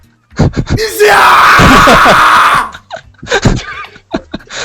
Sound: laughter

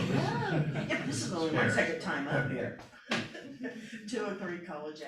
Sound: laughter

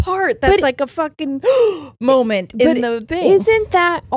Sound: gasps

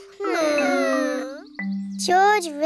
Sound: whining

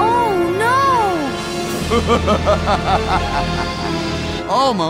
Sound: laughing

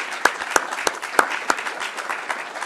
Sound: applause

